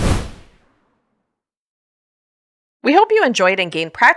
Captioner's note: whoosh Sound